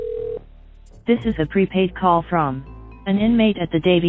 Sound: phone machine voice

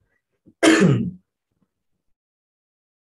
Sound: coughs

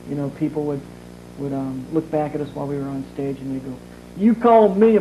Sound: in Southern accent

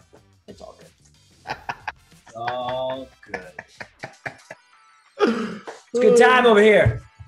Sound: laugh

